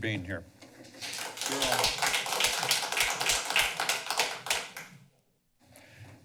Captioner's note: applause